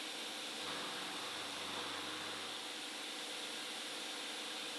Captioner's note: machinery whirring